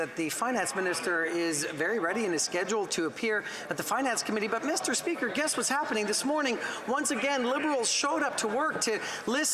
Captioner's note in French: voix de l'interprète